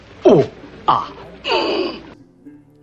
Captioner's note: moans